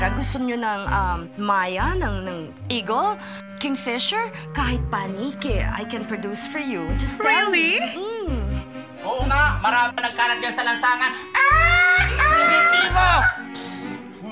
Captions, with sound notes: Do you want maya or eagle, kingfisher, even bats? I can produce them for you, just tell me. -Really? -Mmm-hmm. Yes, there are plenty of those in the streets. [caws] Primitivo!